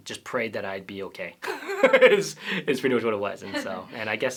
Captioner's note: laughter